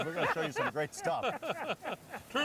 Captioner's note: laughing